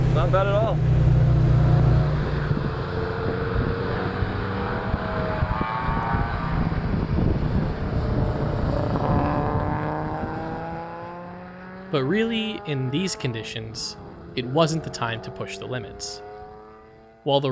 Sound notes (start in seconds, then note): 1.9 engine revving